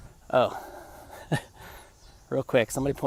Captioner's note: laughter